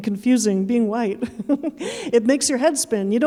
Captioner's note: chuckling